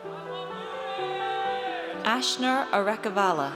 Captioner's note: audience cheers